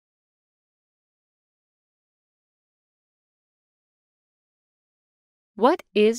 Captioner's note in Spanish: silencio